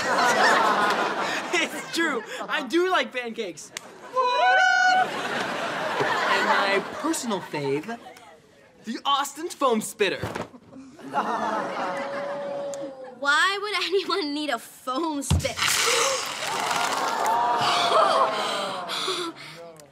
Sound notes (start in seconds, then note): 0.0 laughs; 16.1 gasps